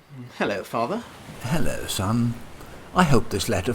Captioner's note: reading letter